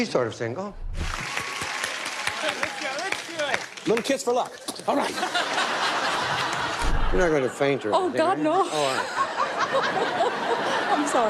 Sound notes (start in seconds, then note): 1.0 applause; 5.0 laughter; 8.3 laughs; 8.5 laughter